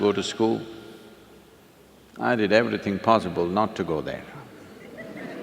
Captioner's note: laughter